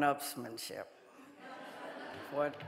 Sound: audience laughing

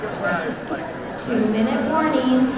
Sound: audience conversations

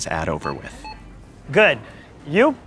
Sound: cash register beeping

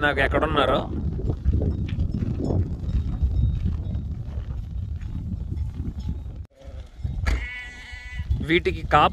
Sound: wind gushing

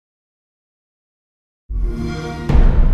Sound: xbox sound

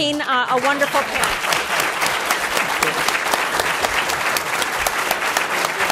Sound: applause

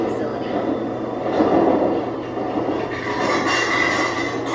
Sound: rattling

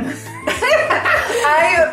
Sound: giggling and laughing

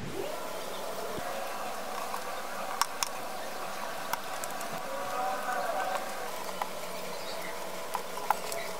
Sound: clap

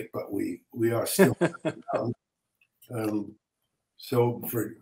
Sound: laughing

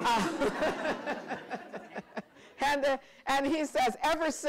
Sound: laughter

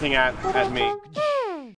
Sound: beatboxing

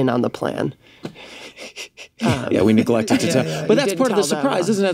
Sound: laughs

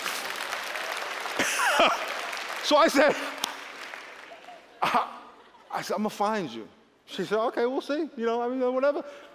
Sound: laughter

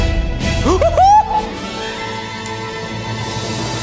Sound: cheers

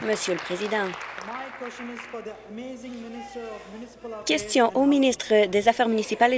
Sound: applause

